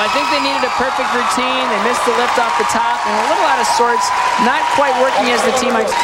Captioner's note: crowd cheering